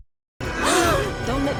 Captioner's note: gasp